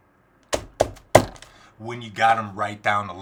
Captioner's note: pounds desk rhythmically